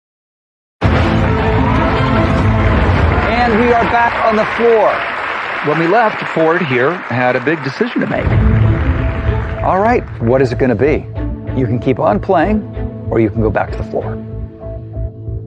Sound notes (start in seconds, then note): 0.8 dramatic music; 1.1 cheering and applause